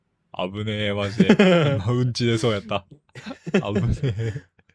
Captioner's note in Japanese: 笑い